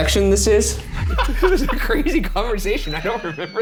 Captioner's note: laughing